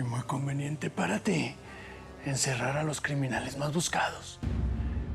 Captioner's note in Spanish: none